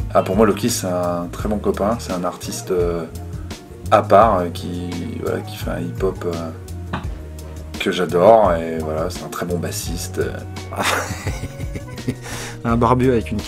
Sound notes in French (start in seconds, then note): 10.7 rire